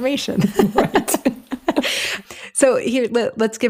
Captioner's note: both laugh